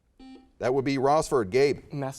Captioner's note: buzzer chimes